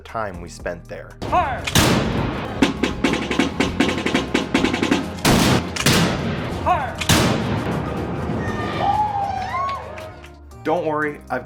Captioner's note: gun Shots; snare Drum